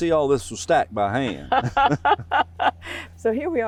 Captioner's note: laughing